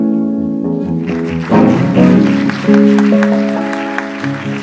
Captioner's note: audience applauds